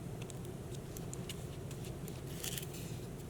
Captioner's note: brushing; paper rustling